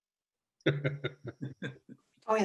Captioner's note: laughter